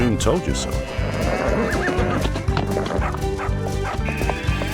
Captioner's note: cow moos; lively music